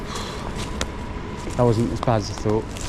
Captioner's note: hands slap